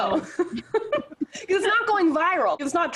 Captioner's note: laugh